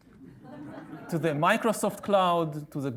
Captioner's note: audience laughing